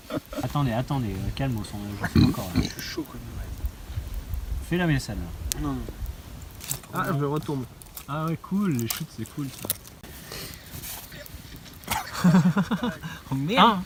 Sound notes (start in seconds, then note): 2.0 buurp; 2.0 buuurp